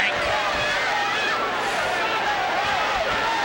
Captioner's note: crowd clamoring